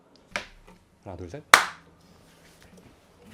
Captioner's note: clap!